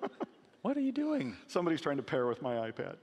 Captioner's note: laughing